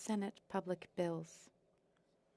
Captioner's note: speaking French